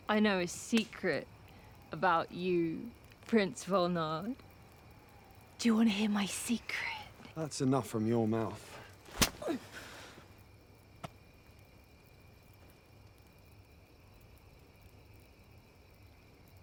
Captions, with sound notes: I know a secret about you, Prince Volnard. Do you wanna hear my secret? - That's enough from your mouth. (hand smacks) (Salina groans) (fire crackling)